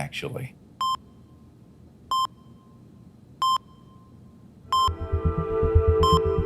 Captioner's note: beeping